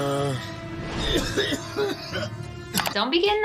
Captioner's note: violent coughing